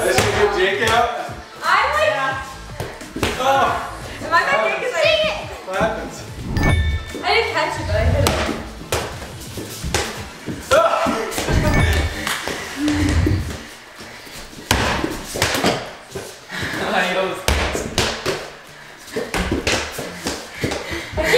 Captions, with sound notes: - I just need to get Jake out? - Dang it! - What happened? - I didn't catch it but, I hit it. (ball bouncing)